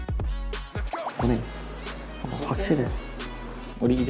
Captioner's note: confident